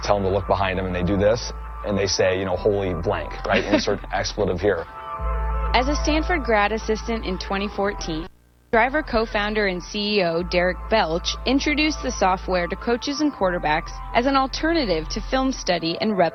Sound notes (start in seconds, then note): 5.9 voiceover